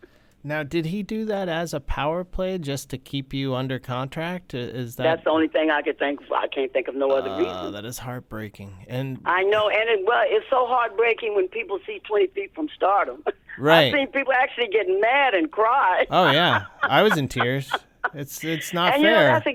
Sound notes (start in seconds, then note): 16.2 laughter